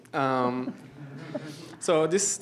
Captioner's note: laughter